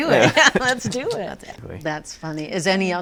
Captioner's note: laughs